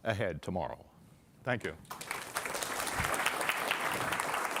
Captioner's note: applause